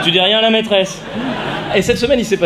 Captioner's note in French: rires